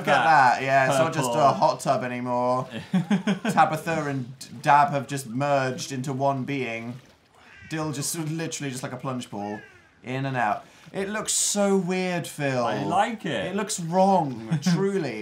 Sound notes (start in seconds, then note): 2.6 laughs